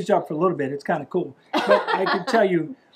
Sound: laughing

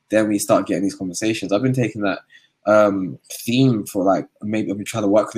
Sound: erm

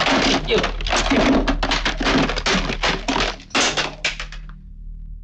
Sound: phone rattling

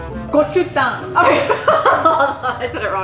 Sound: laughs

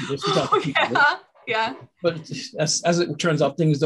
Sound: laughing

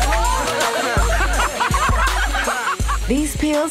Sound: clapping, cheering; laughing

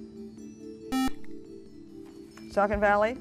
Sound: buzzer

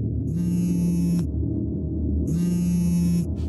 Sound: dramatic music; phone buzzing

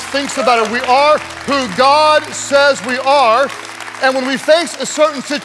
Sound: congregants applauding

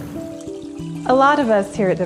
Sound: water splashing

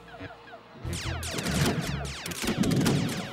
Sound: electronic blasting

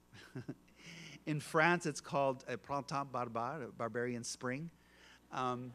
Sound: French spoken

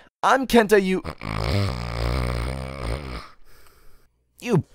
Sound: snoring

